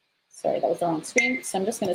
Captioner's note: beep